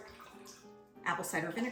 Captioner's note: liquid sloshes